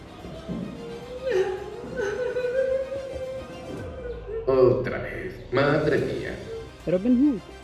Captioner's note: crying, man says something in Spanish